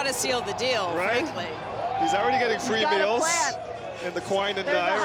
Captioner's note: cheering